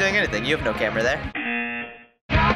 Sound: buzzer

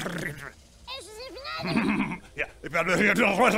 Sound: Concerning Bob noises; piss off noises

